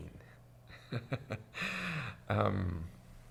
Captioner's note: laughs